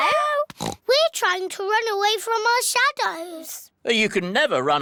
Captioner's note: oinks